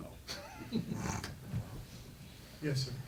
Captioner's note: laughing